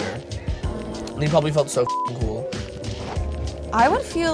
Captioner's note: beep